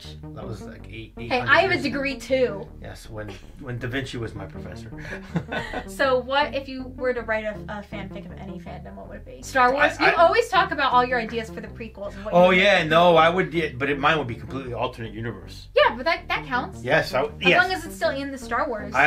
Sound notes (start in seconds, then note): 4.5 chuckles